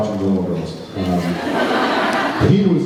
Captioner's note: laughs